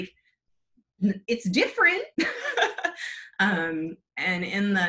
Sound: laughs

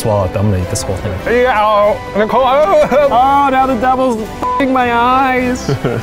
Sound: beeping; chuckling

